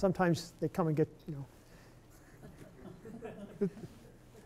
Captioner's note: laughter